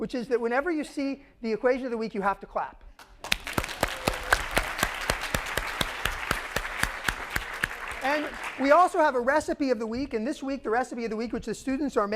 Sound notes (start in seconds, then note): 3.0 applause